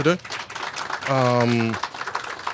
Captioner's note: applause